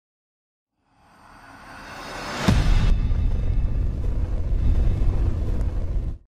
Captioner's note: dramatic rumblings and echoes